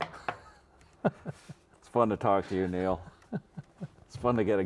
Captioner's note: laughs